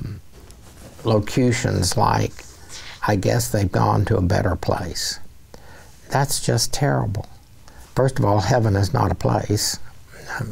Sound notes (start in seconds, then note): none